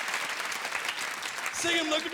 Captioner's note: applause